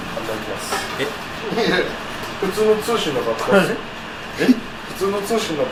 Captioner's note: laughs